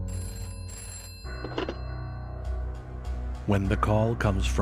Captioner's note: phone rings